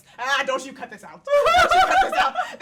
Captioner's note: women laughing